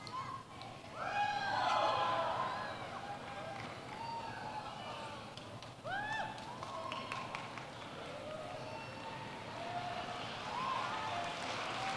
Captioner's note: applause